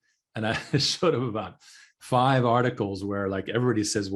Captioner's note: laughing